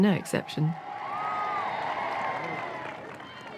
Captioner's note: applause